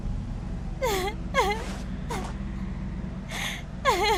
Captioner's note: laughing